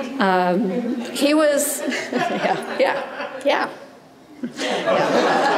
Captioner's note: audience chuckles; chuckles; audience laughs